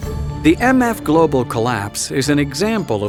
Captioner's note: voiceover